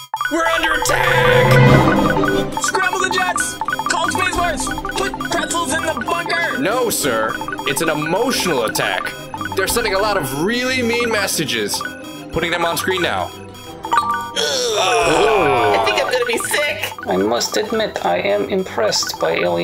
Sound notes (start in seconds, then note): 1.7 intense music; 13.6 computer chime; 14.3 groans of digust